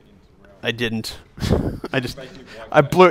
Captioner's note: chuckles